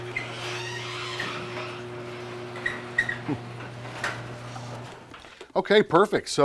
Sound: garage door squealing

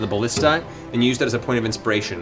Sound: none

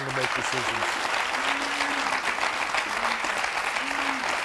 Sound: audience applauding

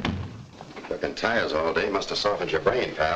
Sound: door thuds shut

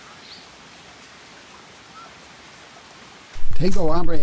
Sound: birds tweeting

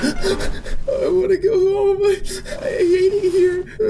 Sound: sniffle

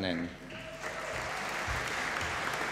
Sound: applause

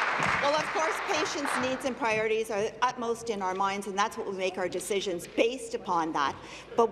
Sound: applause

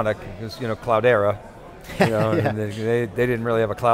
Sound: laughs

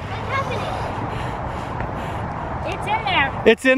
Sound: breathing heavy

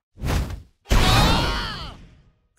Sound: screaming

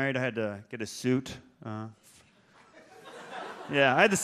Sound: audience laughs

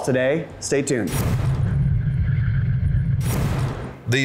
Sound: whooshing

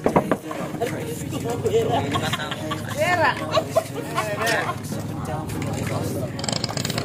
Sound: laughs

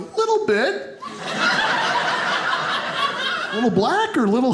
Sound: audience laughing

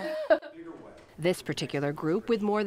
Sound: laughter

